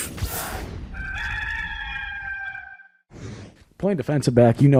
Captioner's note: rooster crowing